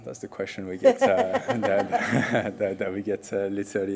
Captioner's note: all laugh